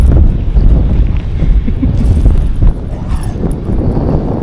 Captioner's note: giggling